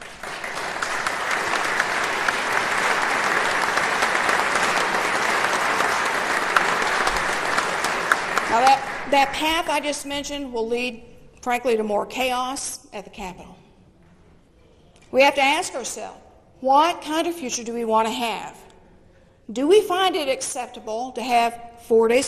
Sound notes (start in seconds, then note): 4.1 applause